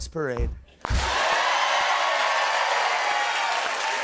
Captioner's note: cheers and applause